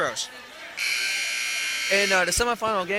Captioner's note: buzzer sounding